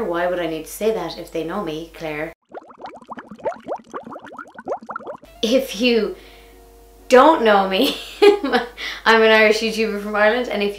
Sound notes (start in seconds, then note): 2.4 liquid bubbling; 8.1 laughs